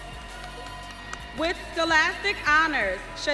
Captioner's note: audience cheering